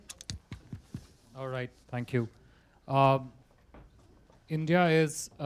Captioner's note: through translator